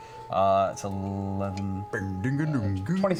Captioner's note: hums